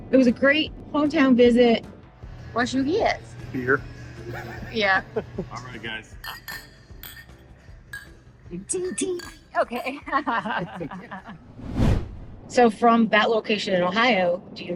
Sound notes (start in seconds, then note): 6.2 glasses tinging; 8.6 laughs